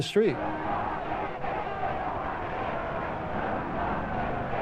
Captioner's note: crowd chanting